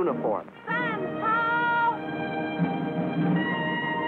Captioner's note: speaking chinese